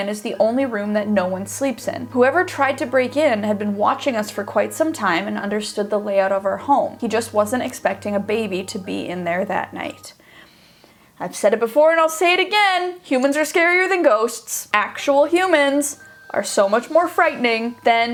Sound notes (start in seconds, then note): none